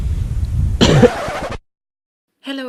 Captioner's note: cought